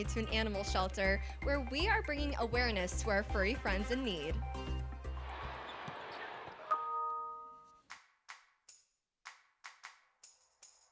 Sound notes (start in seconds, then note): 5.1 crowd cheering; 6.7 laptop ringing